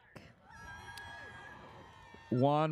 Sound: audience cheers

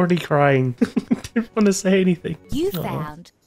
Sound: laughter

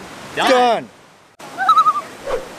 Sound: loon call

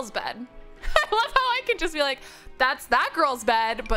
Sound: laughs

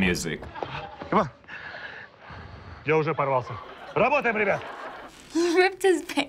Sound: speaking in Russian

